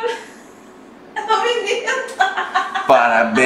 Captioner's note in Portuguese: risos